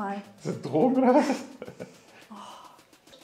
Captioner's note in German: lacht